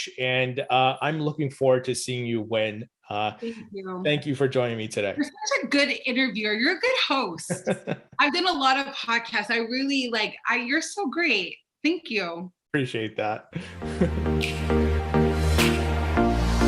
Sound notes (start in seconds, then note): 7.4 laughing; 13.4 laughs; 13.5 upbeat music